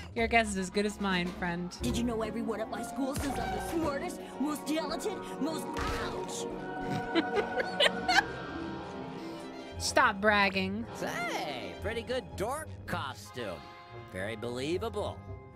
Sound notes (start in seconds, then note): 6.8 laughter